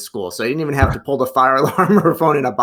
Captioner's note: laughs